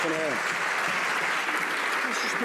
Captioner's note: some Applause